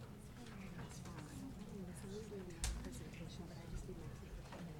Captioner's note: people chattering